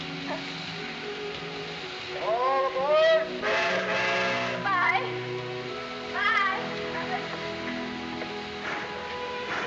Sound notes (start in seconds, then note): 3.4 train horn blaring